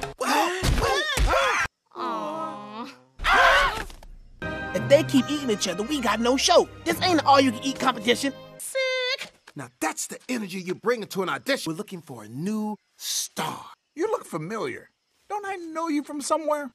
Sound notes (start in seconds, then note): 0.2 screams